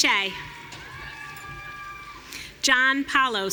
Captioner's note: audience cheering